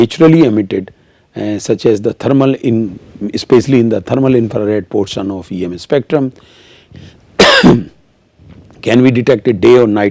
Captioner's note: coughing